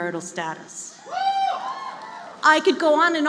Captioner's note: cheering